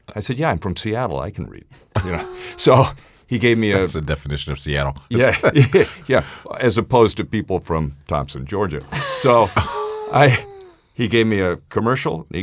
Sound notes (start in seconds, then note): 1.9 laughs; 8.8 laughs